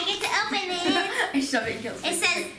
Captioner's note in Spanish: risas